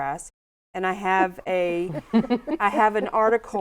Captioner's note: laughing